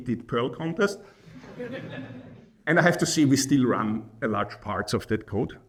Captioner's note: laughing